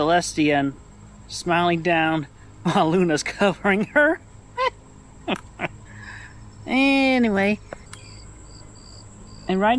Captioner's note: laughter